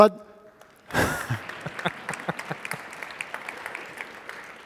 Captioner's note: audience applauding